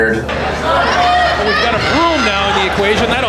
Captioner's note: crowd shouting